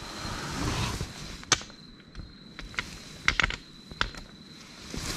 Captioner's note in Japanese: 石が崩れる音